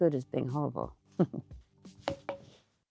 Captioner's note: chuckles